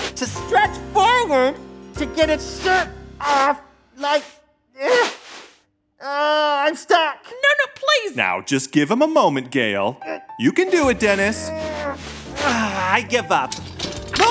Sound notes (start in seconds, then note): 0.3 voice muffled in fabric; 4.9 struggles; 11.0 soundbite of continuing to struggle